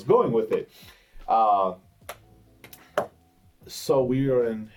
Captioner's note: hitting chair